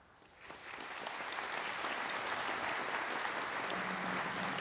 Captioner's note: audience applauding